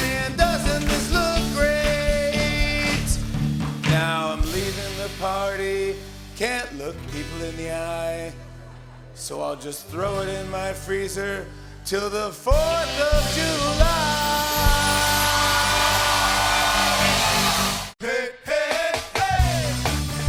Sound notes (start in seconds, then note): 16.6 cheering and applause